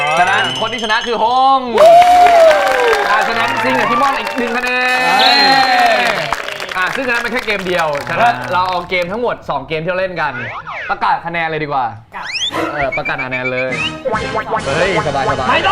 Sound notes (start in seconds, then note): 1.8 applause!